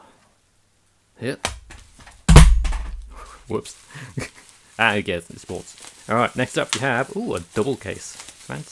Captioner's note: crash